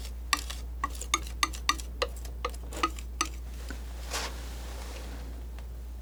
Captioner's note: scratching